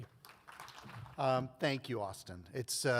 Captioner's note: audience applauds